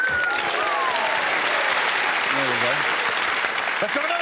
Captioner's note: man whistles